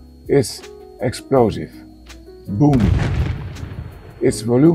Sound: boom!

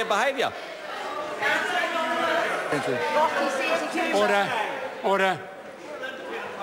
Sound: members talking loudly

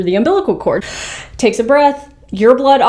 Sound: inhales

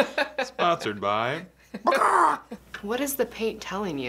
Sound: clucks

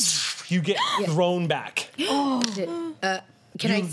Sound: gasps

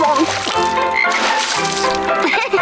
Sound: croaking; laughing

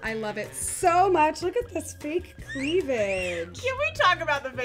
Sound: wolf whistling

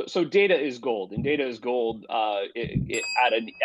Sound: bell dings

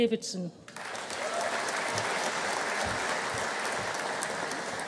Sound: audience applauding

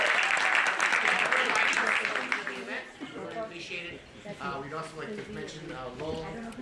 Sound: applause

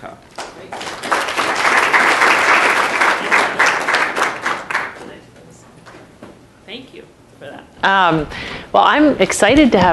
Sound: applause

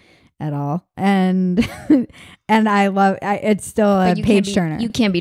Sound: laughs

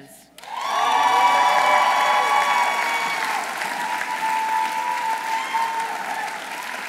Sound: audience applauding; audience cheering

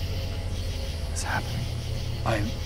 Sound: Whispering to David

